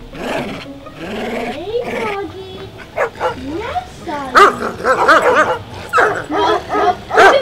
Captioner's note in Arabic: أصوات الهدير الكلب